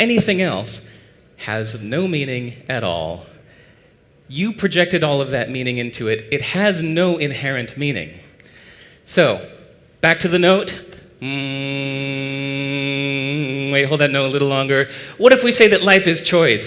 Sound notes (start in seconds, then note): 11.2 hum